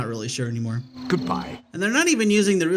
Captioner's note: in not Tyro's voice